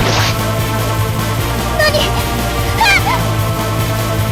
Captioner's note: screams